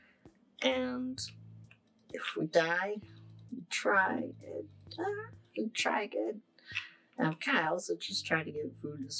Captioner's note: breath